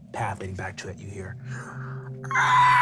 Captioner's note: screeching